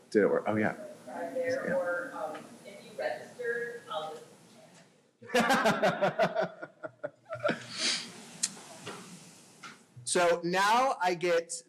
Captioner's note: laughter